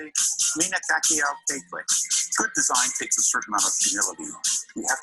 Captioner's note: speaking foreign language